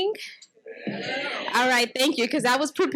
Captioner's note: audience mumbles